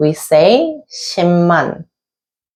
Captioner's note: pronouncing Korean